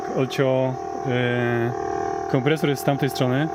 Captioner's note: background: neighbor's compressor can be heard